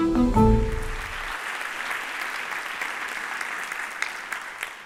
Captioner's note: applause